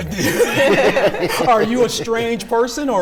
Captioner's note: laughing